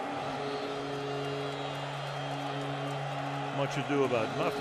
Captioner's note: horn blowing